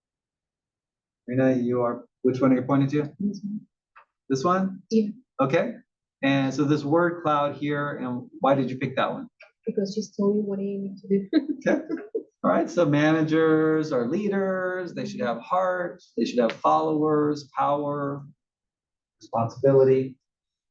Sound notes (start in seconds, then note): 11.6 laugh